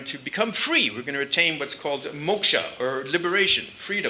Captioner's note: sanskrit